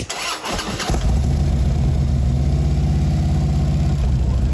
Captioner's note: bike engine rumbling